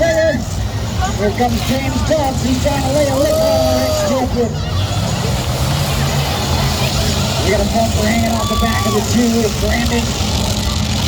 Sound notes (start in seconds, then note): 4.8 engines rev and crowd cheers